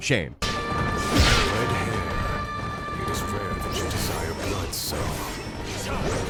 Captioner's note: sword strikes landing